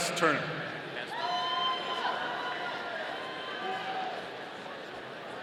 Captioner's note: audience cheering